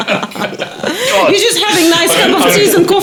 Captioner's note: laughing